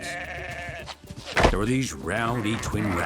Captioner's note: sheep bleating; horns thudding